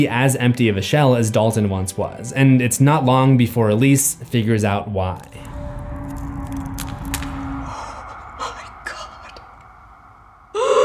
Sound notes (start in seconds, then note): 5.2 cracking sound; 10.6 gasp